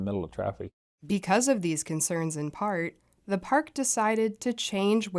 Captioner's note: voice-over